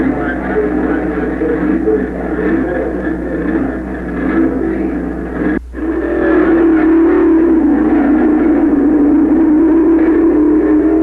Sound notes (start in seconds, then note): 6.3 engines roaring